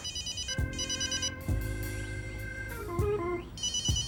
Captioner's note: phone ringing